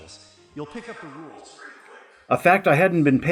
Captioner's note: with increasing reverb